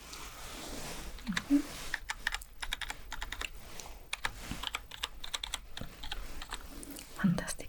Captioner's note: typing sounds